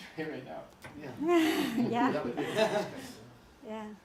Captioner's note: laughter